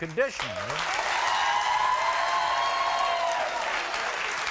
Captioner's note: crowd cheering